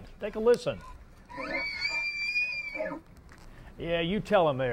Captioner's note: elk Screams